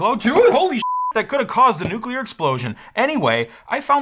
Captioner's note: beep